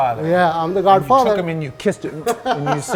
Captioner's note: kissing air